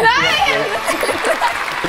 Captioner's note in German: Jubel